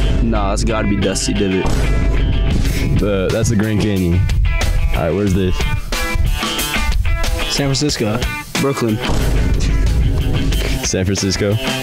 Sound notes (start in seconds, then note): 1.6 boom sound effect; 9.0 boom sound effect; 9.6 laughing